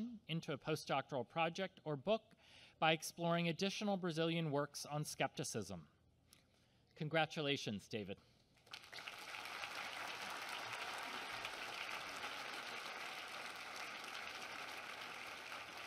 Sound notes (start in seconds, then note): 8.6 applause